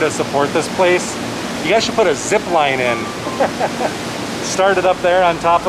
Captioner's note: laughter